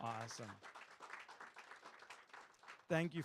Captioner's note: audience claps